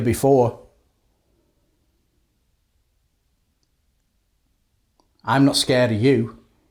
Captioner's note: silence